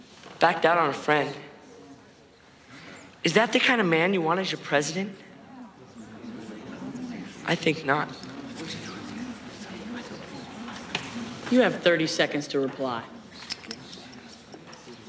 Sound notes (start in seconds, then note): 5.5 murmuring grows; 13.4 ticking